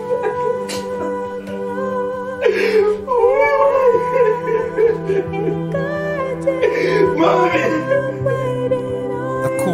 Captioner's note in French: sobs